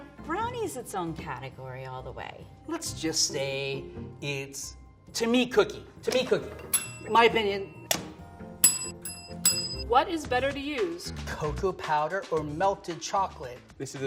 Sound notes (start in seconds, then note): 8.6 bell dings